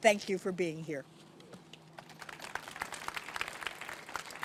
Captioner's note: applause